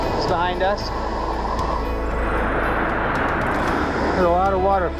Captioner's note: river rushing